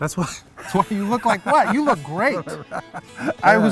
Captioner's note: laughter